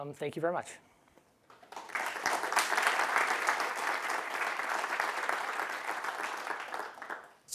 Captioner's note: applause